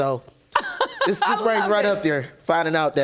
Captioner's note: judge lake chuckles; chuckling; audience applauding